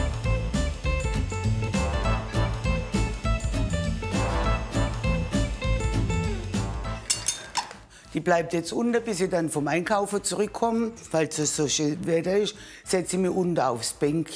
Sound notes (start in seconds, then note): 7.0 metallic snap